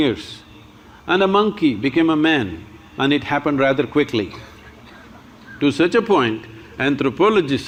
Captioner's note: laughter